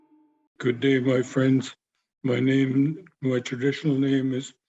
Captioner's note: speaking lək̓ʷəŋən